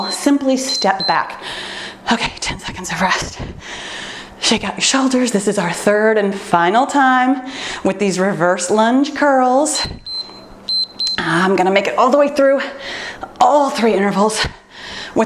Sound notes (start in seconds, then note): 9.8 timer beeps